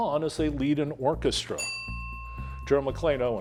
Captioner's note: bell ringing